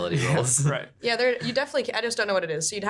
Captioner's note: chuckling